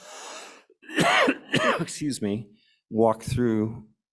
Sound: coughs

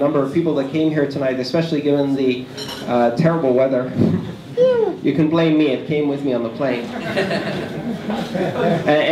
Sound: laughter

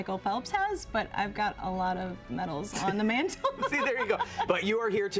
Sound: giggling

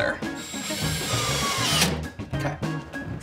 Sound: drill whirring

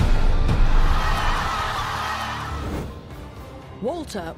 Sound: audience cheering

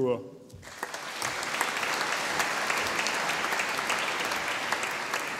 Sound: audience applauding

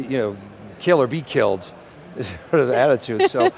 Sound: laughs

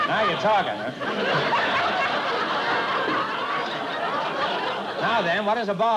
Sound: laughter

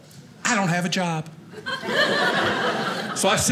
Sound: audience laughing

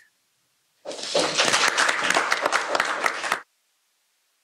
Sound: applause

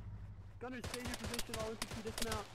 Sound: gunfire

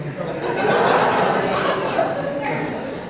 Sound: laughter

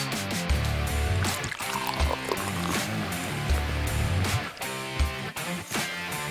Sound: rock music plays; beer is being poured; rock music plays

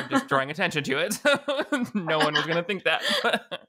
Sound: both laughing

